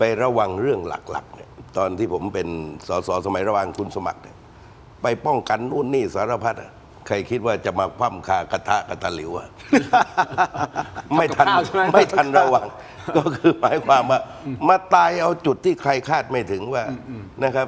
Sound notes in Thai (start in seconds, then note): 9.6 เสียงหัวเราะ